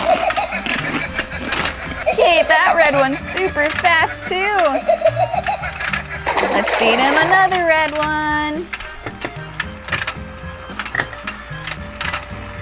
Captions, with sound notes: (shark laughs) He ate that red one super fast too. (water splash) Let's feed him another red one.